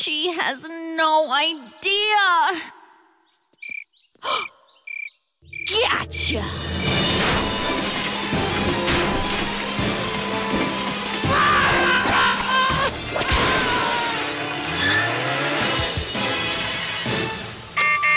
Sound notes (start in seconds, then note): 4.2 candace gasps; 4.2 cricket chirping